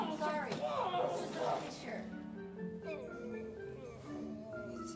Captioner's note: grumbling